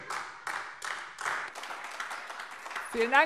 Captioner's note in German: Beifall AfD